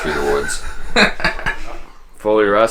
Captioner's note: camera man laughing